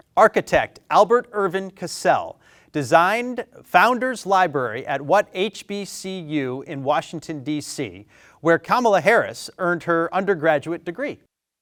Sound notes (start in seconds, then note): none